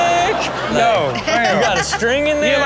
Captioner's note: Chanel laughing